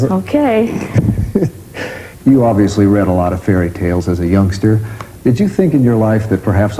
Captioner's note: laughter